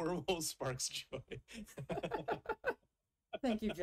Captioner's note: both laugh; chuckles